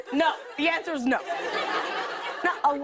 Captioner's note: laughter